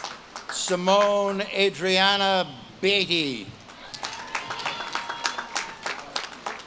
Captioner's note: audience claps and cheers